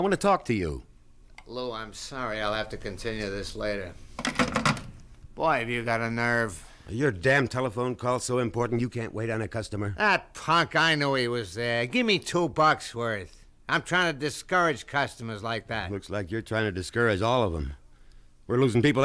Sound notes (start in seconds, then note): 4.1 phone hangs up